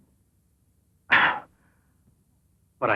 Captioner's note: sighing